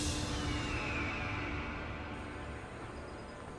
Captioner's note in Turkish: Müzik - Gerilim; Kartal ötme sesi